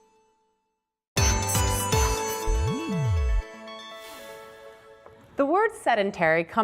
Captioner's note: whisper; whisper